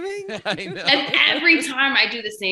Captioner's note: laughing